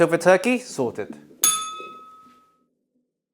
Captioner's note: bell rings